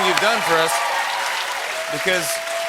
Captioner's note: cheers and applause